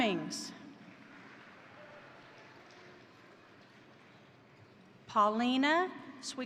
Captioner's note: crowd applauding; crowd cheering